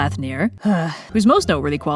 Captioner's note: sigh